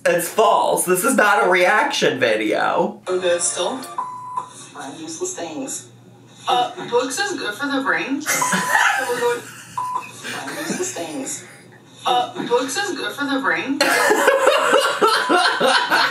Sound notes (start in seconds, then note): 3.5 video beeps; 8.3 laughs; 13.8 laughs